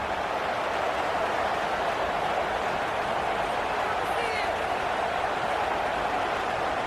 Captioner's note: crowd Noises